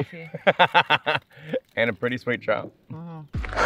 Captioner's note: laughs